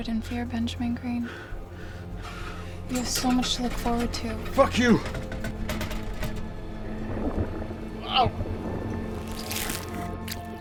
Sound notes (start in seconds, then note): 6.5 moist rumbling; 9.2 tearing